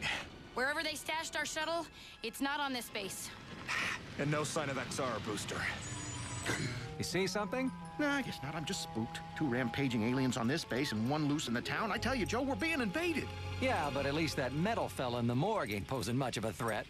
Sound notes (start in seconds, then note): 6.4 sighs; 6.4 gasps